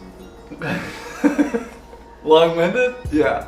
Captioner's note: laughing